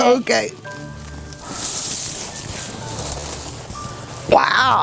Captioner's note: tree branches crunching lightly